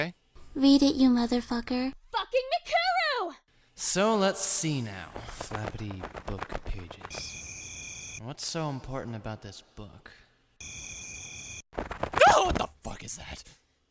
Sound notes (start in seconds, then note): 11.9 kyon's vocal chords go higher than they should again